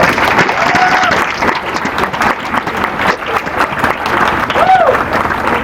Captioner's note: applause